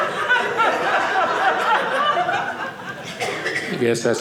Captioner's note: audience laughing